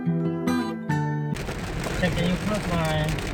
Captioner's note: heavy rain